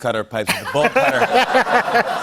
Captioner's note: laughter